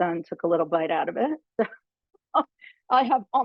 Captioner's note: laughing